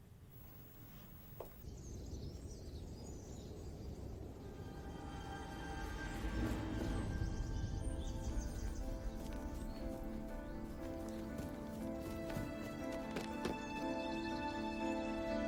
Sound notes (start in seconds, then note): 1.4 birds singing; 4.6 dramatic music playing